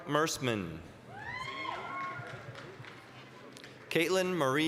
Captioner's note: applause, cheering